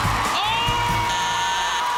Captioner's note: beeping